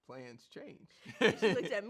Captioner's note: laughs